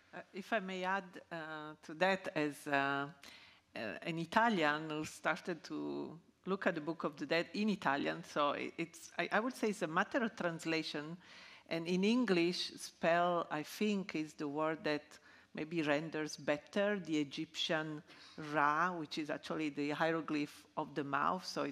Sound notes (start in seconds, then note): 17.8 speaking in ancient Egyptian